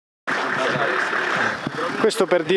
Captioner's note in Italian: rumore di motore in folle